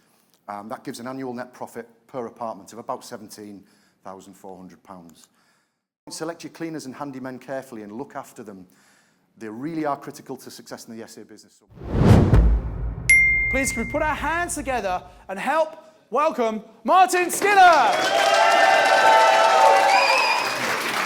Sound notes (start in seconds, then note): 13.1 bell dings; 17.3 crowd applauding